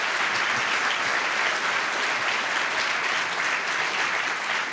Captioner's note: applause